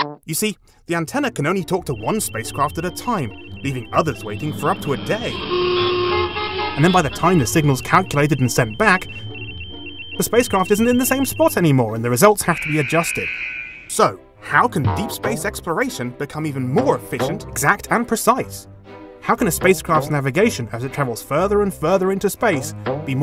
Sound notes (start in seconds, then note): 5.2 traffic horns honking; 12.5 buzzer